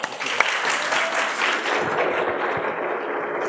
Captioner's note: applause